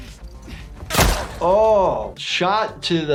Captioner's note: gun shot